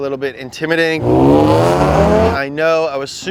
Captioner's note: engines revving